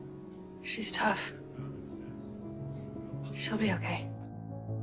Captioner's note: voiceover